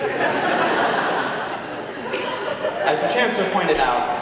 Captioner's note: audience laughing